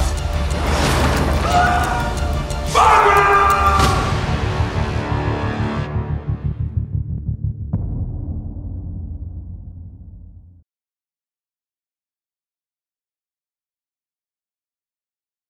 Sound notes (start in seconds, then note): 1.1 shouting; 2.6 shouts